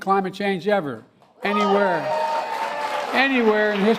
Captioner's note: applause